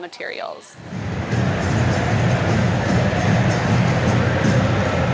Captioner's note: audience cheering